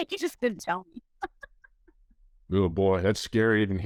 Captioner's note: laughs